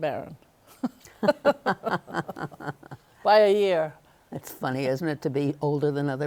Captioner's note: both laughing